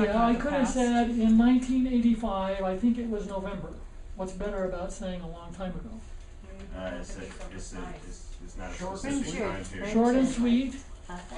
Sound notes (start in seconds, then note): 6.2 students talking